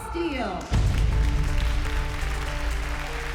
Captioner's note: crowd cheering